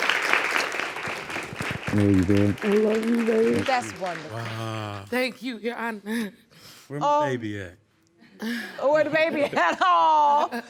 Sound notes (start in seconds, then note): 5.1 voice trembling; 8.7 laughing; 9.1 chuckling